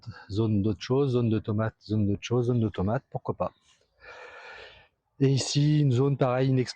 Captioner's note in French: soupir